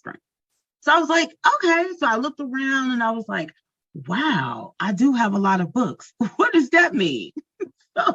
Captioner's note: laughs